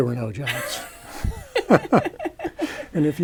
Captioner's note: laughter